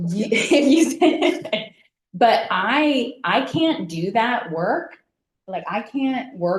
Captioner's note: laughs